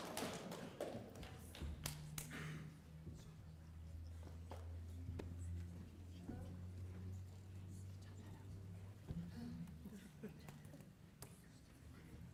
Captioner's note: applause